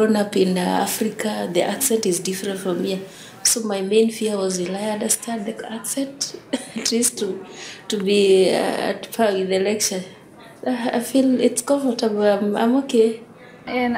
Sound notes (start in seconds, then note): 6.3 laughs